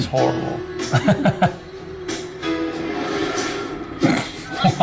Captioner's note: Justin laughing; players laughing